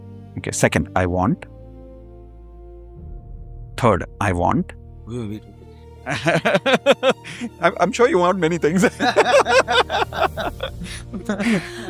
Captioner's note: laughter